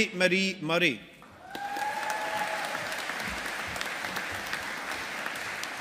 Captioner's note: audience applauding